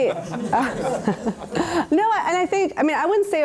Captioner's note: laughter